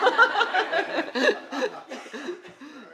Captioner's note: laughter